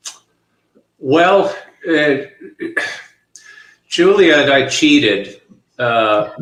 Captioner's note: chuckling